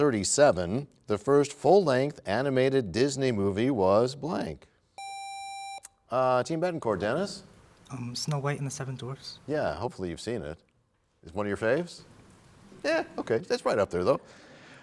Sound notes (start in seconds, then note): none